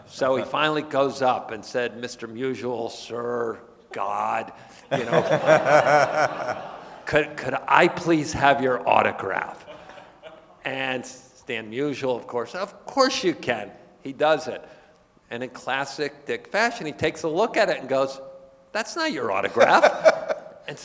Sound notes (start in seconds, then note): 4.9 laughing; 4.9 audience laughing